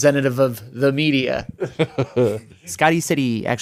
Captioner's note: laughs